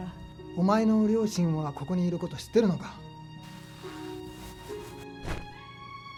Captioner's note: Michiko speaking in foreign language; Toshio speaking in foreign language